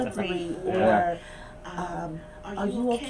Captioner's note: chuckles